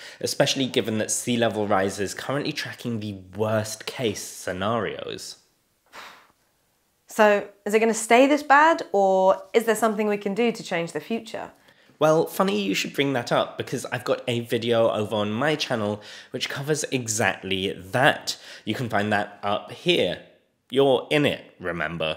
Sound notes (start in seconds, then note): 5.9 exhales